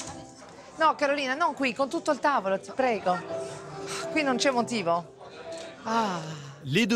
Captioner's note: speaks in Italian